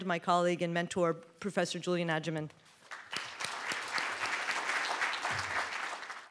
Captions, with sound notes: my colleague, and mentor, professor Julian Agyeman. (applause)